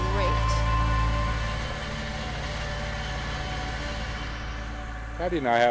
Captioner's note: tractor engine running